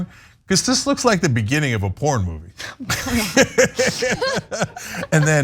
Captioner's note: laugh